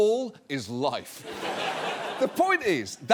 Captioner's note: audience laughs